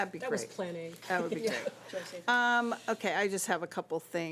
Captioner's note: overlapping chattering